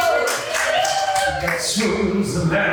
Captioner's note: cast and crew applaud